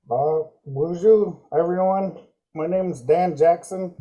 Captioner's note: speaking in Native language